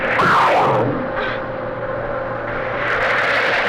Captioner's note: grunts